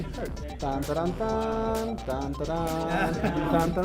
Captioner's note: mimics Indiana Jones theme